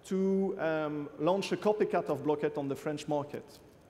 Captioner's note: French